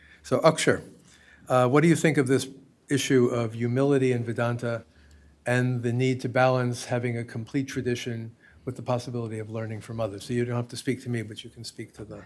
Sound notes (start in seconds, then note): none